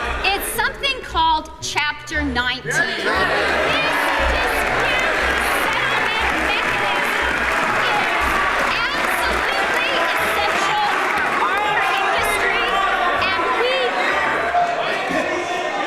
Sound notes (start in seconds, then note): 4.8 crowd booing; 10.2 booing continues; 14.7 booing and yelling intensifies